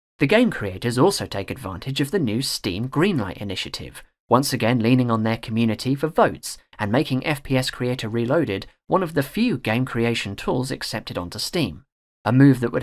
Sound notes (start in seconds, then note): none